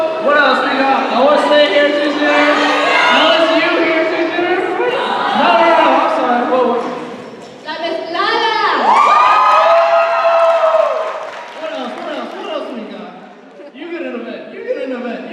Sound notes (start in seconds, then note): 8.6 speaking in Spanish; 8.8 cheers and applause